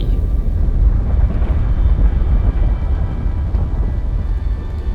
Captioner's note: volcano rumbling